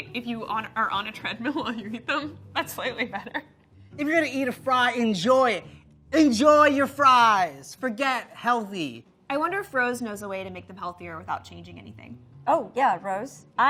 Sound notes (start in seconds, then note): 3.5 laughs